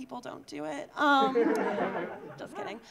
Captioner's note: audience laughing